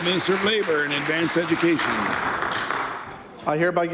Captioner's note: applause